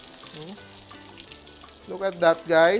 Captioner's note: sizzles